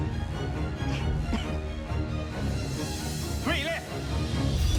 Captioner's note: coughing softly